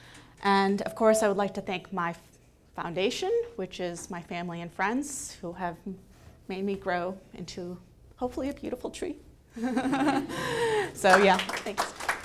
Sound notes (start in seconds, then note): 9.7 laughing